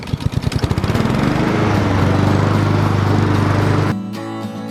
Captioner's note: mower engine roars; acoustic pop music